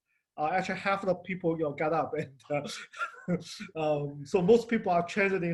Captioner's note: laughs